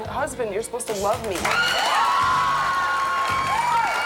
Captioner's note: cheering